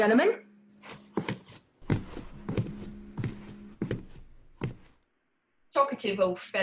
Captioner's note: footsteps